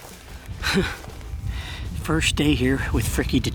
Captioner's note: laughing